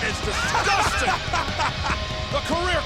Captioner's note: person laughing